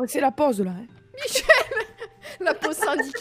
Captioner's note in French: rire